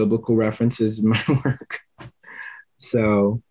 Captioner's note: laughs